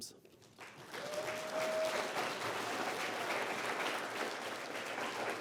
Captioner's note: applause